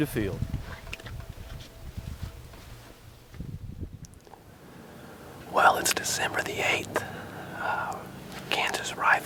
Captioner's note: whispering